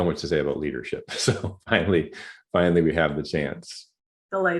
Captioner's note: laughter